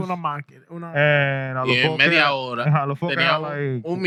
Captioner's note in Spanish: Hablando en idioma extranjero